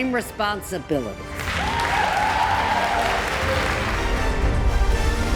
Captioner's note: crowd cheers